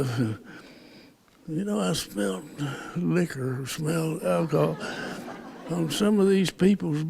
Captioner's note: laughter